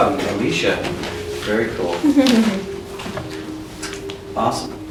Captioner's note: Alicia giggles